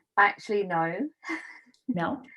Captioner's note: laughs